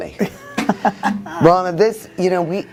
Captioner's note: laughs